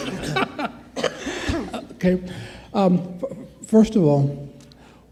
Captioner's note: laughing